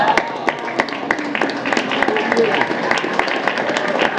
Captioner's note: applause